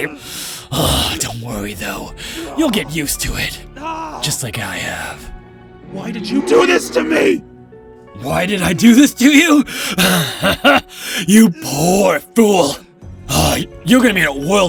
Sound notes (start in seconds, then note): 0.7 sneer